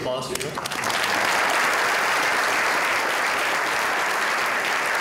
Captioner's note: applause